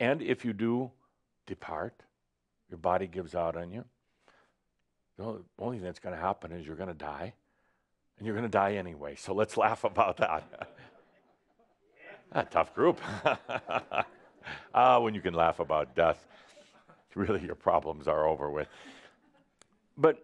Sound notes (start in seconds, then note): 11.9 Adamus chuckles again; 12.0 Adamus chuckles but no one else does